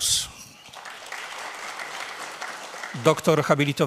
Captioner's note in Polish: oklaski